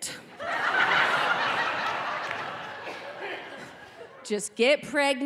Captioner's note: audience laughing